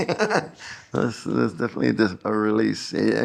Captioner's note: laughs